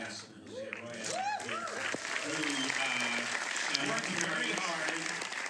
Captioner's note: applause